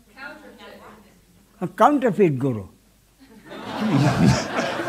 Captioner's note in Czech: smích